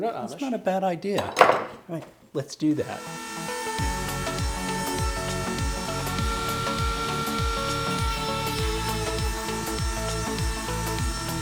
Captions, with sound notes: - That's not a bad idea. Let's do that. (upbeat music) (file grinding)